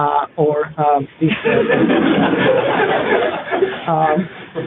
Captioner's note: laughter